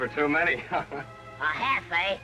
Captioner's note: laughs